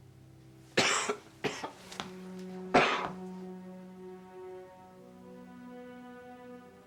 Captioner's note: gentle music; Frank coughing